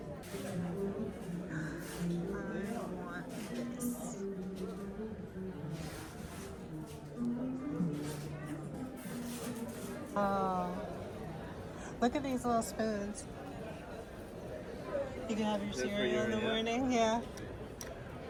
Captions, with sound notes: (people chattering) Oh, look at these little spoons. You can have your cereal in the morning, yeah.